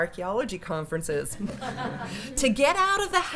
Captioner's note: laughter